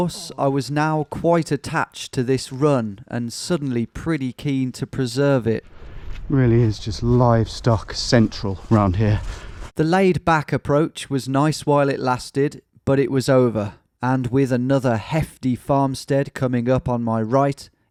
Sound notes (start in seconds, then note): none